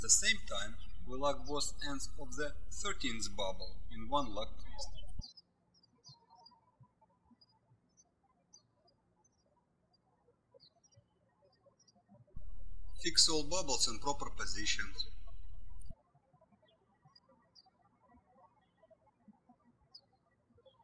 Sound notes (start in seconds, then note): 6.7 birds chirping; 16.2 birds chirping